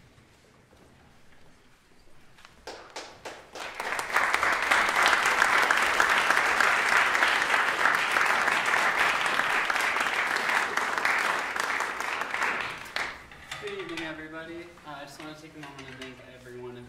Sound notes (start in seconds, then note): 2.6 applause